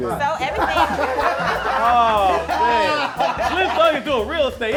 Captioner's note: laughing